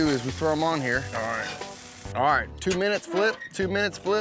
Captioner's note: sizzling sounds